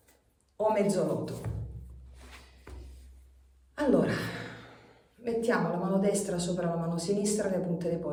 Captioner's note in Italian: sospiri